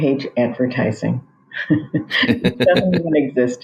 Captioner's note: both chuckles